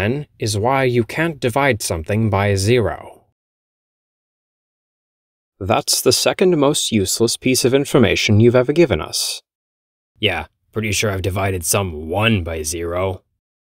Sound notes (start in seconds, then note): 3.7 uncomfortable silence